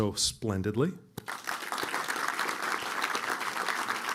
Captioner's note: applause